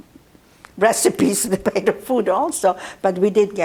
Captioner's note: laughing